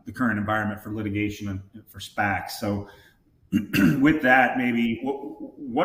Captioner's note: clears throat